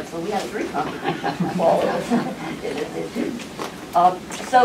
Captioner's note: laughter